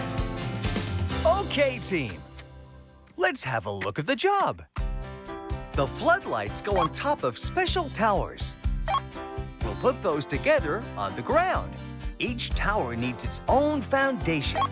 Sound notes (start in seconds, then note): 8.8 computer Beep